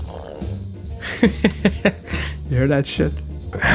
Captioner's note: Blackimus laughs at his own noises